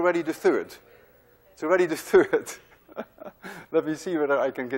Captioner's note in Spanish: Riendo